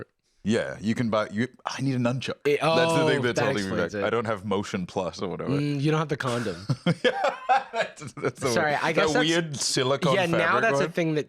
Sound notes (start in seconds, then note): 6.4 laughs